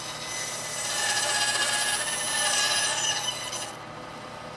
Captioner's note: tool squealing